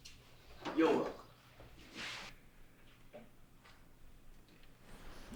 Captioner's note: none